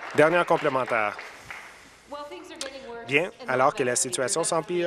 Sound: applause

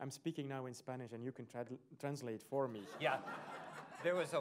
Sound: laughter

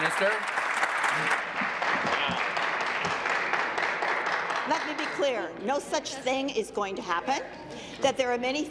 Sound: applause

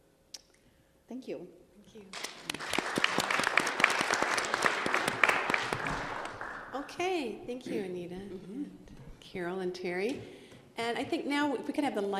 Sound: applause

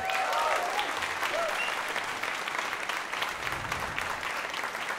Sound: crowd cheering and clapping

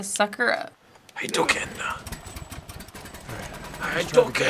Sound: hushed; generator splutters

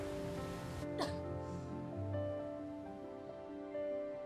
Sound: coughing

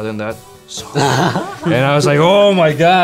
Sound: band member chuckles

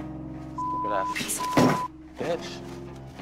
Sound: beep

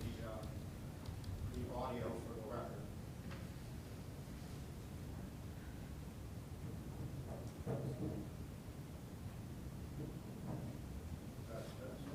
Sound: off microphone

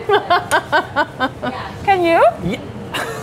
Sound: laughs

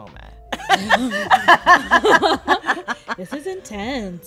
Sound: all laughing

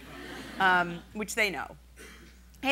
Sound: laughing

